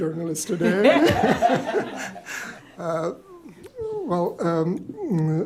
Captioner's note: laughter